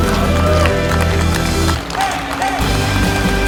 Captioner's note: crowd clapping